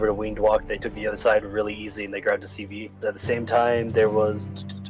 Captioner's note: clicks